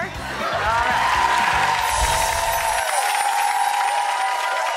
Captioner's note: applauding